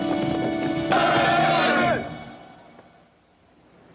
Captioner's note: yelling